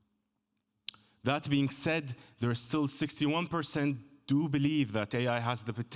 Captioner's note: none